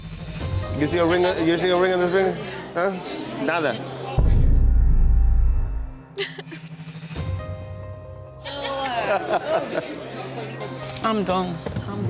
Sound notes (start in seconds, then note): 5.9 gentle music; 6.2 crying; 8.8 laughing